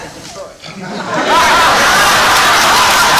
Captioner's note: laughter